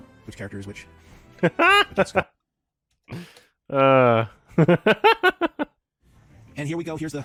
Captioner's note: laughs